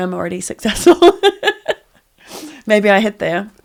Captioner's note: laughs